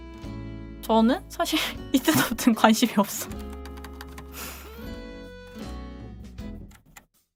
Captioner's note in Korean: 웃음